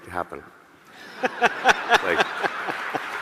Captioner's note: audience laughing; laughing